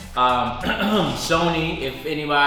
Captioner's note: clearing throat